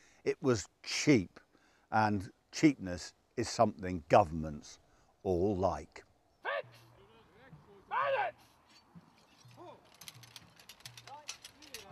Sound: man shouts 'bayonets' in background

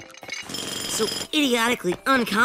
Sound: jackhammer

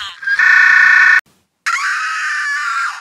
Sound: screams

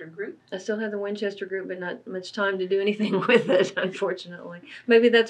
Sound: laughs

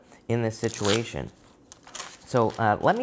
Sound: cards shuffling

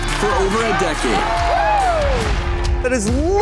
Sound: audience cheers

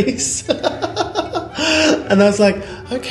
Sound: laughs

